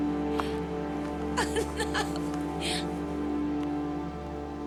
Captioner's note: Marie giggling